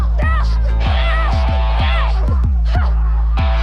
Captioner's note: grunting